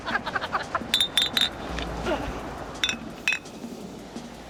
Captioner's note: laughing out loud; clinking glass